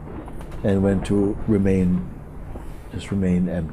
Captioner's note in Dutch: none